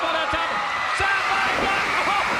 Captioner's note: crowd cheering